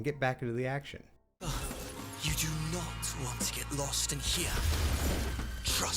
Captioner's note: glass shattering